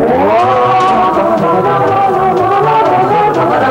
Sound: mid tempo humming

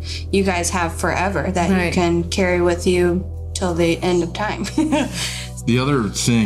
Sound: laughing

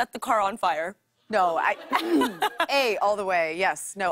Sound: laughter

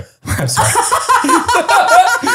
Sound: they laugh

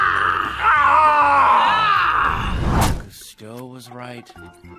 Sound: both yelling

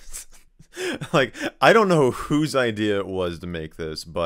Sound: succumbs to laughter

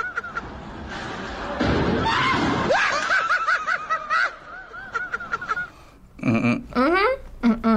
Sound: people laughing; hums

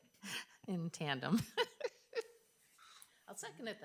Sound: laughs

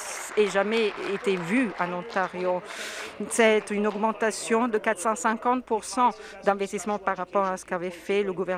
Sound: some Applause

